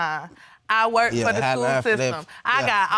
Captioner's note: stammering